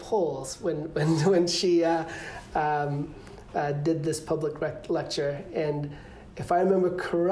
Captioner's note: laughter